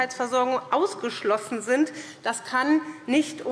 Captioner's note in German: none